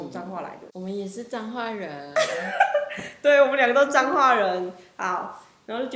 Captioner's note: laughs